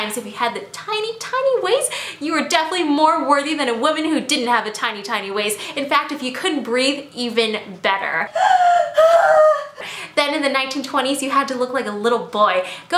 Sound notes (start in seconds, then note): 9.8 breathes